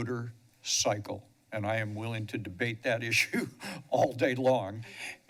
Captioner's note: chuckles